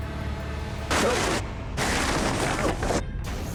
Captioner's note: rustling